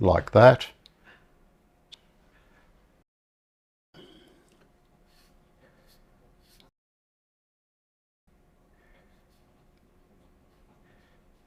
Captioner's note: silence